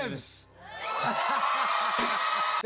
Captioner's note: cheers and applause